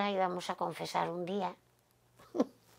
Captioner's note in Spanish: Ríe